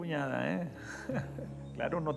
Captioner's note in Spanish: risas